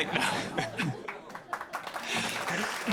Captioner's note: laughing